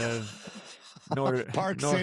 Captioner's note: laughter